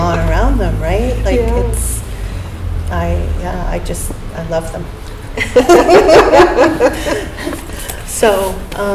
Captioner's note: laughter